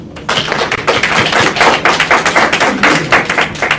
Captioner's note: applause